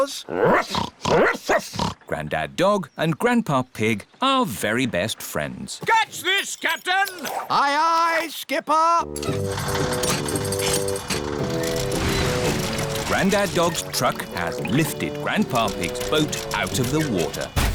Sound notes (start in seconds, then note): 0.3 snorting; 1.1 barking; 9.9 whirring